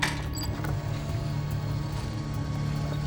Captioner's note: whirring